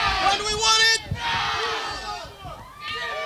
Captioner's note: crowd